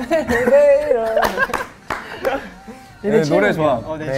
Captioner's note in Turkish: Gülüyor